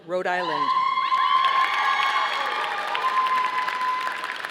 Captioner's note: audience applauding